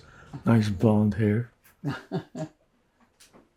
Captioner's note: laughing